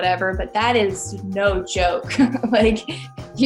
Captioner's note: laughs